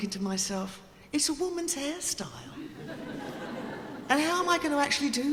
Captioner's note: audience laughing